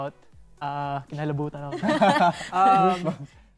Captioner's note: laughter